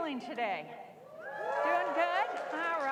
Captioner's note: cheers